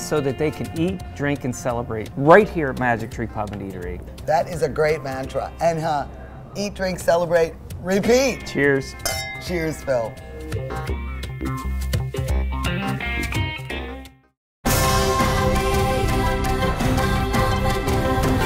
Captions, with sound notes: so that they can eat, drink, and celebrate right here at Magic Tree Pub & Eatery. - That is a great mantra, and eat, drink, celebrate, repeat. - Cheers. (clanging) - Cheers, Phil. (heavy beat jazz music) (joyous chime and vocal music)